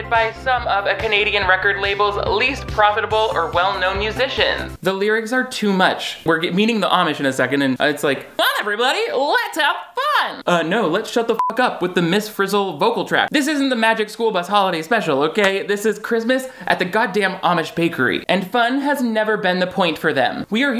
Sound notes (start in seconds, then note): 11.4 beep